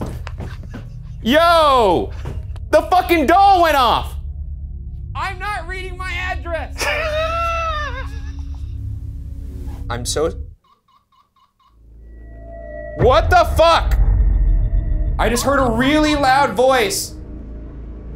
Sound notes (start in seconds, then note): 0.4 laughing; 6.6 laughing; 10.6 object squeaking; 11.8 ominous music continues